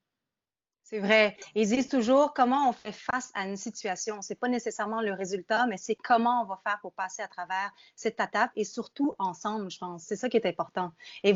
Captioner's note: speaking in French